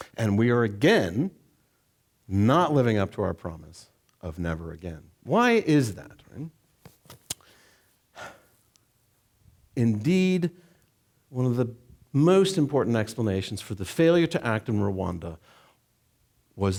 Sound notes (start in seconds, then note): 8.1 exhaling